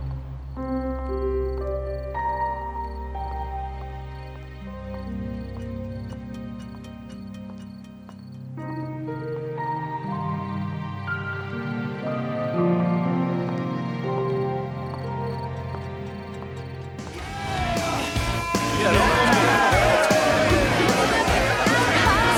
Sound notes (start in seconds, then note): 0.0 crickets chirping; 0.6 gentle pensive music; 16.8 energetic music; 17.1 people murmuring